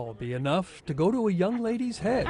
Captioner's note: laughs